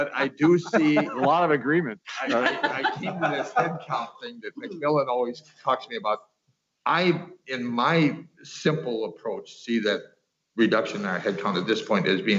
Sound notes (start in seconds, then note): 2.1 laughter